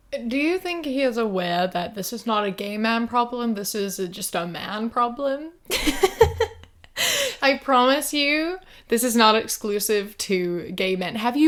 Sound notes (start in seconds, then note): 5.7 laughter